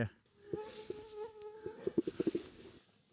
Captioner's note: mosquitoes whine